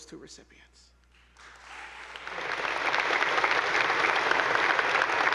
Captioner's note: attendees applauding